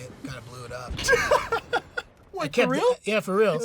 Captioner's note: laughing